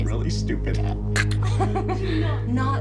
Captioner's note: laughter